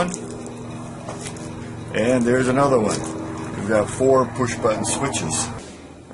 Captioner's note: airplane noise